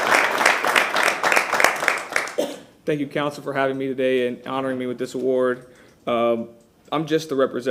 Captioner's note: applause